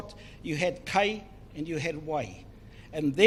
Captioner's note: foreign Language